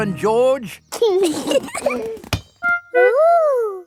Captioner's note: both giggling